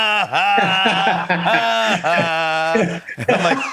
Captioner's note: laughter